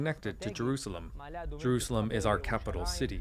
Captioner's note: speaking alternate language